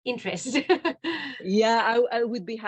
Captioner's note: laughs